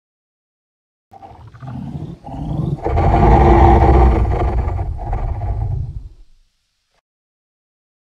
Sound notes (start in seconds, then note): 1.2 sound of monster